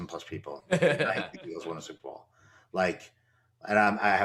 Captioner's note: laughter